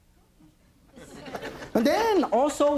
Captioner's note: light audience laughter